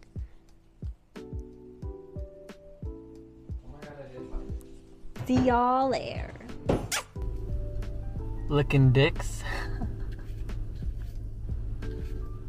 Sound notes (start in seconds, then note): 9.5 fake laughs